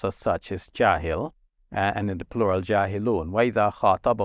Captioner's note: speaking Arabic; speaking Arabic